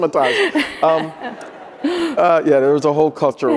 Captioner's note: audience laughing